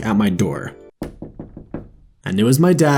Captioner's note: knocks on door